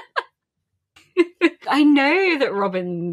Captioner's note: laughing